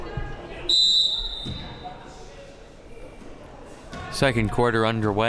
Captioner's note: whistle blowing